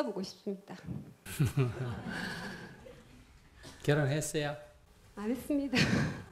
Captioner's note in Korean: 스님 웃음